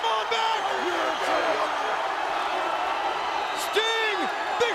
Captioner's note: audience cheering